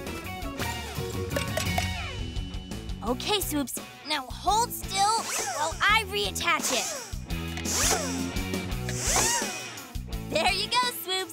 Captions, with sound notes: Okay, Swoops, now hold still while I reattach it. [screwdriver whirring] There you go, Swoops!